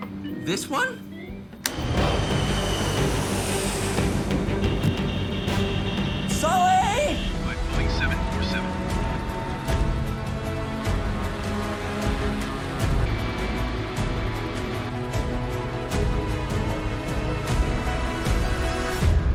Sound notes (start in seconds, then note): 1.9 jet engines roar; 4.6 alarm buzzes